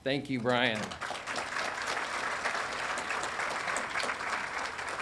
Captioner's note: audience applauding